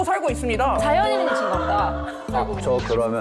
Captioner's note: sound effect of mutual understanding